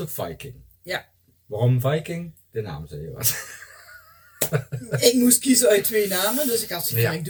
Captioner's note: laughter